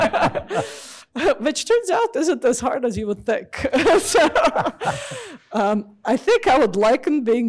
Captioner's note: laughs; laughs